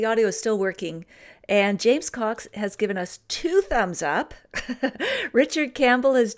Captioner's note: laughs